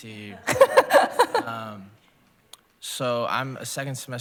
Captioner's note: laughs